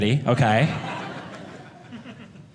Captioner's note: audience laughing